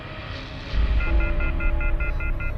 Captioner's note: dial tone beeps